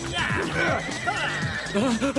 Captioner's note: horse whinnies